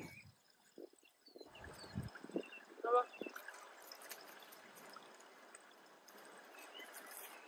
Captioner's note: wind blowing, birds chirping and water flowing